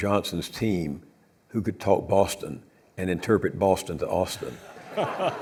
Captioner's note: audience laughs